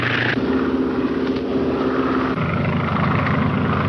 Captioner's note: engines roaring